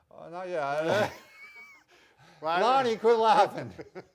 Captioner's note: laughing